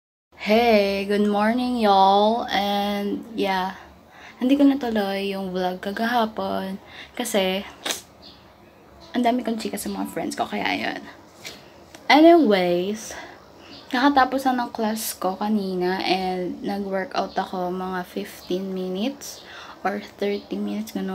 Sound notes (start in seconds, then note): 7.5 tongue clicked